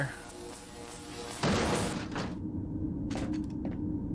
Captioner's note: omnicutter buzzing; clang; omnicutter hits ground